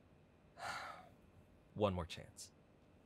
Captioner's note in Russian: вздох